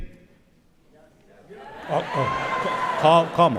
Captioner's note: cheering